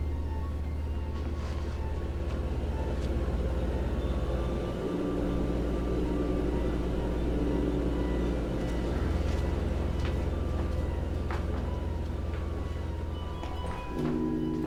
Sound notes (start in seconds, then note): 2.3 heater blowing